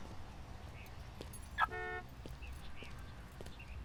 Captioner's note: beeps